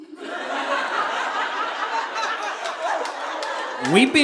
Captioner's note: audience laughing